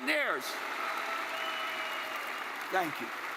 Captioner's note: attendees cheering and applauding